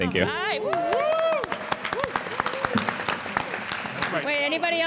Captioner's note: enthusiastic applause